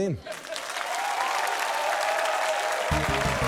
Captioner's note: cheering, applause; upbeat fanfare